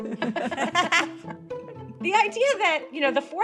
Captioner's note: laughing